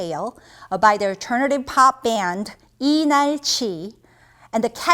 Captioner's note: speaking in Korean language